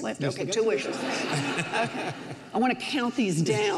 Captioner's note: audience laughs